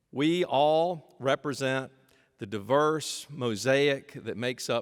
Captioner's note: none